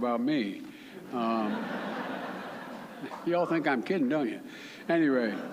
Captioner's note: laughter